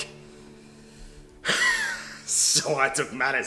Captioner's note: laughs